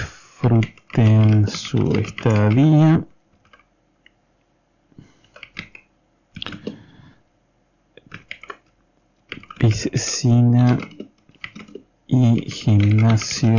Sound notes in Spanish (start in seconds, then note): 3.1 tecleo